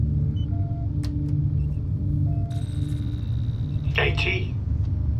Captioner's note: keyboard clacks